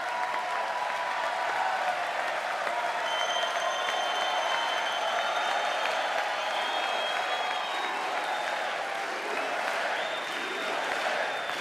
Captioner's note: cheers and applause